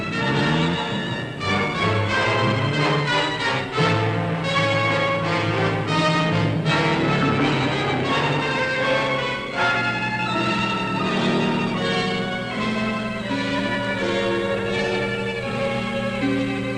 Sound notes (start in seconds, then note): 0.3 engine rumbling; 4.6 dramatic music; 11.3 engine roaring; 12.1 contemplative music